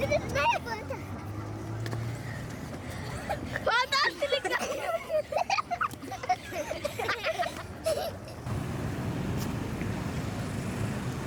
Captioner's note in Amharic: ሳቅ